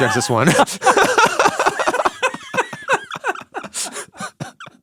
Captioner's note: laugh